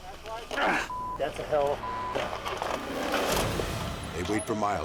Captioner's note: beep